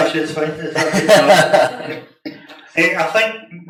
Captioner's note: all laugh